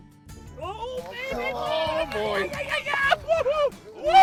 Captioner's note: yelling